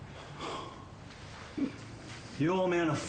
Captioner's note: Jack exhales loudly